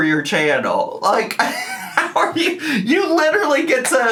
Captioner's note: laughs